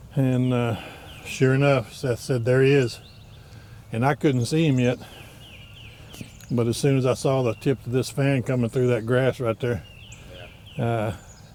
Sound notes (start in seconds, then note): none